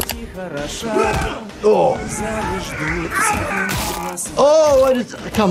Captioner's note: fighting and yelling